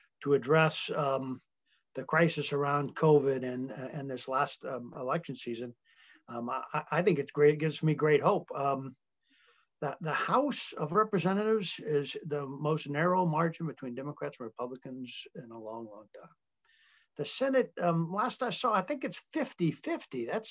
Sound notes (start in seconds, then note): none